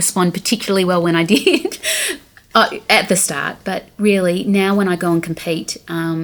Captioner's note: laughing